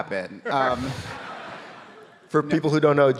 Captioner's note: audience laughing